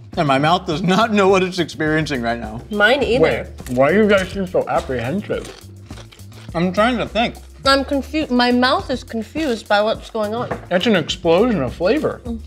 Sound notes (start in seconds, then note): none